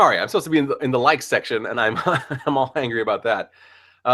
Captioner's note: ha ha!